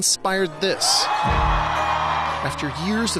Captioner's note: cheering